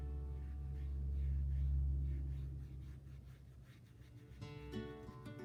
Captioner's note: brushstrokes against paper